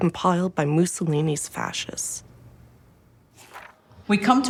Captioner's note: page rustling